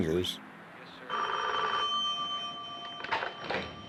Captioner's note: phone ringing